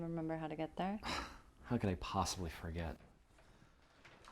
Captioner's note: Wes scoffs